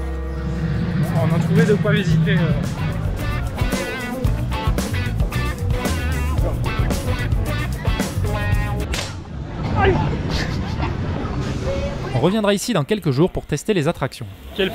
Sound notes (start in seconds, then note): 8.8 rifle fire; 9.8 laughs